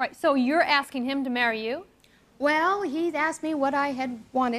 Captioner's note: none